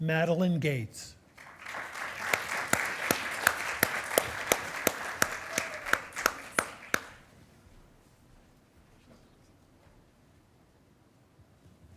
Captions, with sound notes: Madeleine Gates. (attendees applauding)